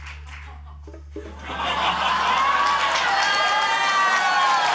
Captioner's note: cheering, applause, laughter